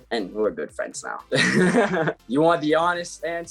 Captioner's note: laughs loudly